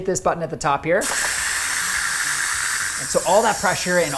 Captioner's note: steam hissing